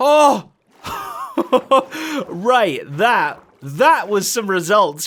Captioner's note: laughs